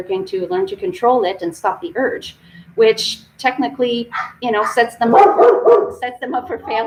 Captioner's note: dog barking